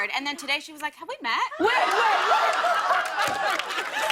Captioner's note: laughter